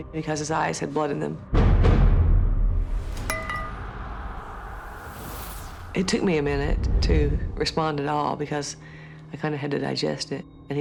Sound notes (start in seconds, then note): 2.6 ominous music playing; 3.2 clanks